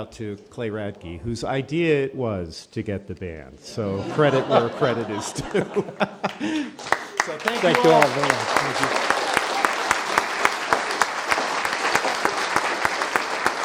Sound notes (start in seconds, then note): 9.1 applause